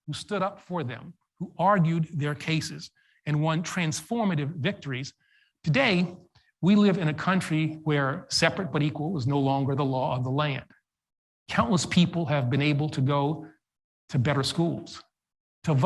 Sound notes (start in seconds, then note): none